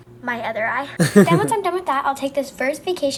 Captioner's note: laughs